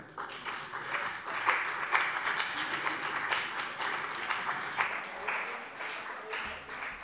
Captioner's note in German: Beifall bei der CDU und dem BÜNDNIS 90/DIE GRÜNEN